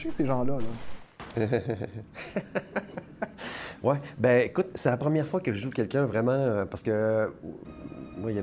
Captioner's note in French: rire